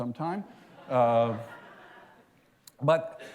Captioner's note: laughter